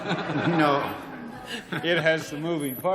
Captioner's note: laughter